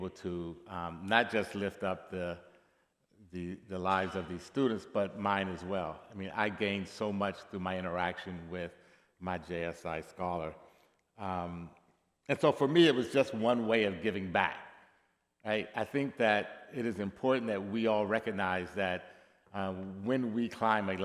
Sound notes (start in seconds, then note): none